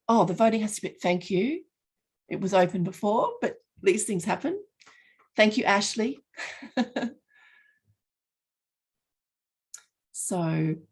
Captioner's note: laughing